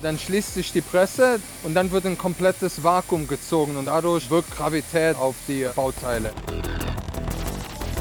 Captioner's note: German